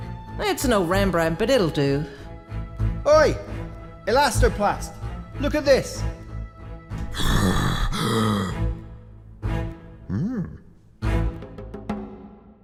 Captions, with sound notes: It's a no Rembrandt, but it'll do. Oi! Elastoplast. Look at this. (Heavy breathing) (Quizzical grunt)